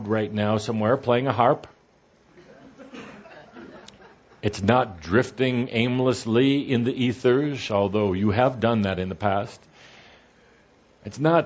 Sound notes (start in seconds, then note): 2.4 some laughter